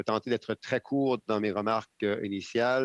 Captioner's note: speaking in French